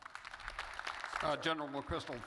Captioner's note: audience applauding